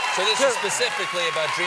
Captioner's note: applause